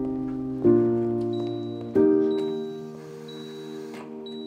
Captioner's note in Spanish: Suenan pitidos